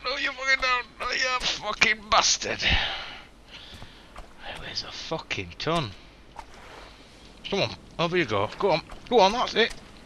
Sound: huffs

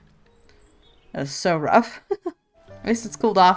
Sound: laughs

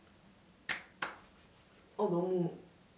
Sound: the sound is so awesome / Slap, slap

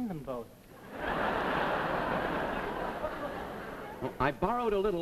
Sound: audience laughs

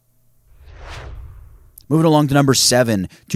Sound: swooshes

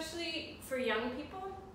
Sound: none

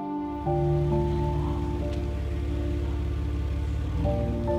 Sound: car engine roars

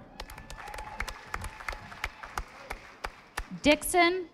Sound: audience applauding

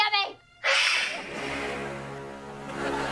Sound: hisses

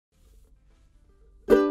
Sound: soft foot steps; light ukulele music

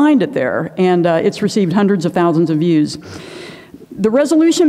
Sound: inhales

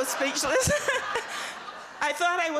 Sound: laughter

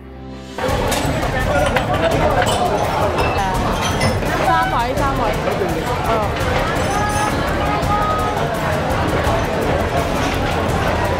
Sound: suspenseful background music; loud chattering and clinking of ceramic ware

